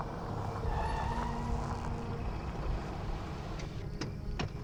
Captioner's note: brakes squeal